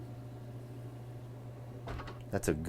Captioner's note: door thudding